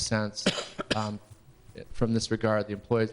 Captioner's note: person coughing